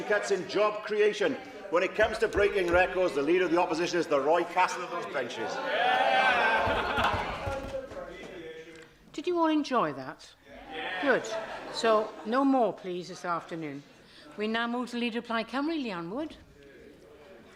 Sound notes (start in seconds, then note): 6.2 laughter